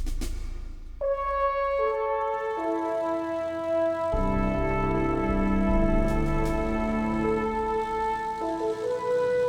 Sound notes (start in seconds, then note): 1.8 plane engines running